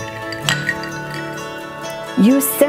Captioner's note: glasses clinking